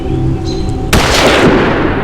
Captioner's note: gun Shot